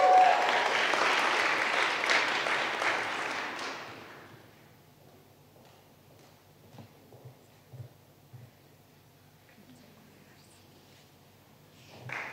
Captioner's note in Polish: oklaski